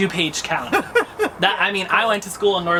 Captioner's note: laughter